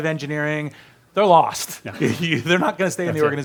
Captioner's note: laughs